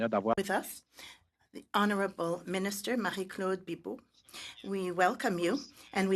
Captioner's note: speaking French